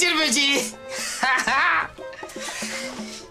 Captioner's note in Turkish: Gülme sesi